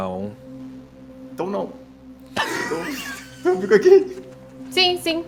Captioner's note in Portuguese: Risadas